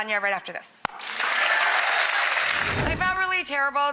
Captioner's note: audience applauding